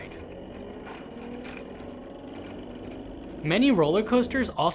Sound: motor whirling

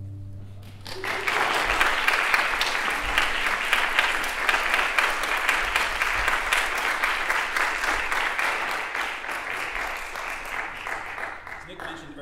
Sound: applause

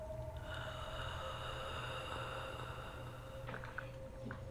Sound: raspy breathing

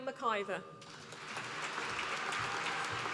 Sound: applause

